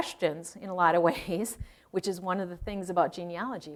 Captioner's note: chuckling